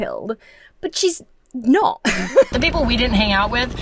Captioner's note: laughs